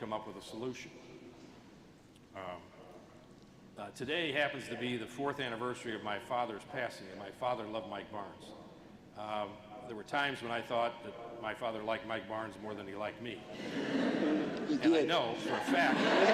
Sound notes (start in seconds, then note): 15.2 laughter